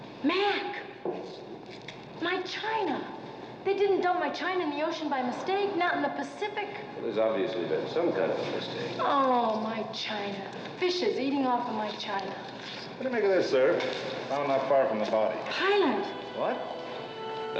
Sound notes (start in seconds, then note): none